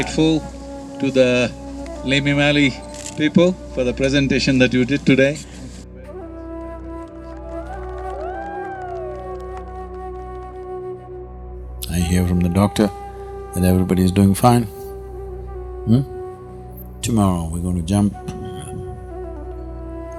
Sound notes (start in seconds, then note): 7.2 cheering/Applause